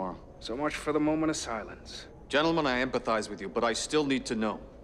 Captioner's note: none